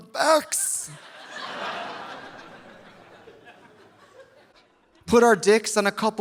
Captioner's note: audience laughing